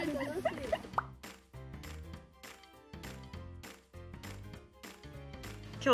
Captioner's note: laughs